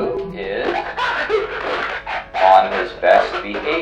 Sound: indistinct screaming

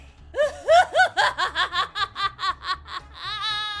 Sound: laughing loudly

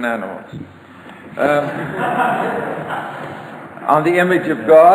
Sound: audience laughter

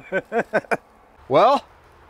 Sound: laughs

